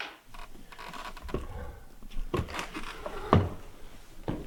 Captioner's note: body thuds; wood creaking